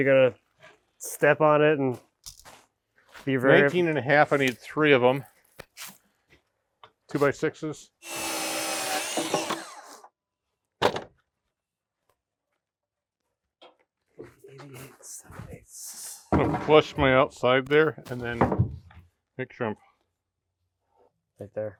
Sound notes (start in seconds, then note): 8.0 power tool whizzing